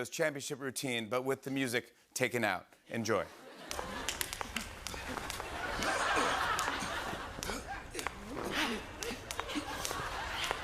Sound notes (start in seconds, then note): 4.0 tapping; 6.7 soft grunting